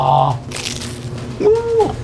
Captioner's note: Crunch